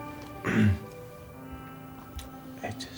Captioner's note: clears throat